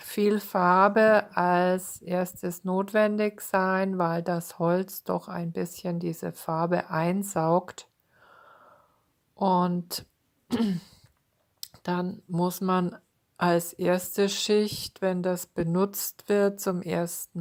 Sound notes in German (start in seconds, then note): 10.5 räuspern